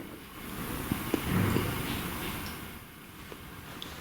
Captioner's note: faint banging